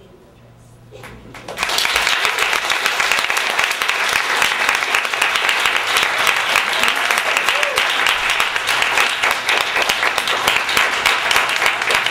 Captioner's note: applause and cheers